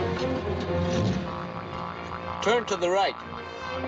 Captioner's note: geiger counter buzzing